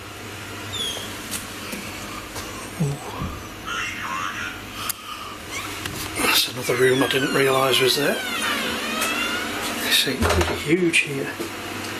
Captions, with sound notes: (electronic voice) That's another room I didn't realise was there. You see pretty huge here.